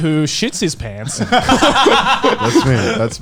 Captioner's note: laughing